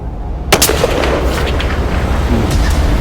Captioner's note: shot